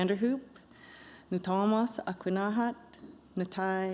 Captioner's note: non-english speech